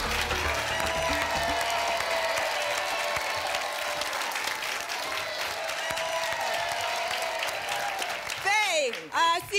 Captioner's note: applause and cheering cont